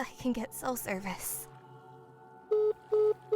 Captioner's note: phone beeps